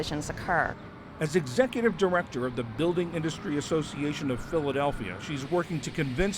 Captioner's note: voice-over